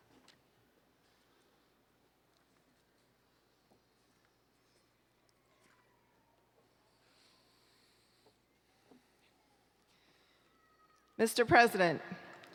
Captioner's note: applause